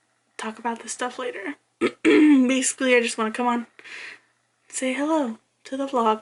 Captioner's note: clears throat